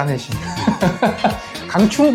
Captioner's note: laughs